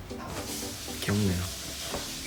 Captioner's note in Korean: 손 씻는 소리